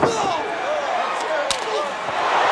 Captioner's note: grunts; hand slaps